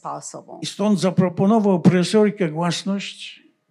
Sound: foreign language

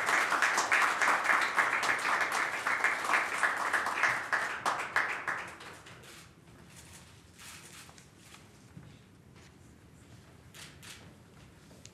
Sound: applause

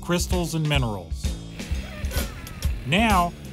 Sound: laughs

